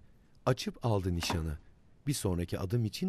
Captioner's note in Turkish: Kapak kapanma sesi